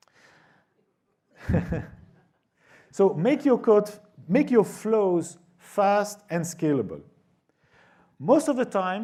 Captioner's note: laughter